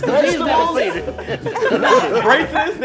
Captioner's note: laughing